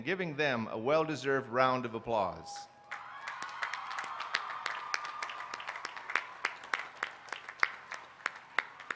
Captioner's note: applause